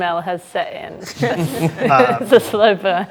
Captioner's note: group laughs